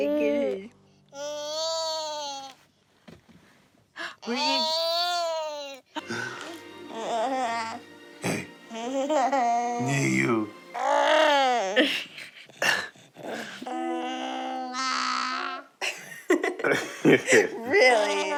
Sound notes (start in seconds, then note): 8.7 laughter; 10.8 cooing; 13.2 cooing